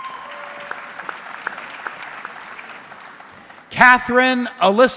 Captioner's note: audience clapping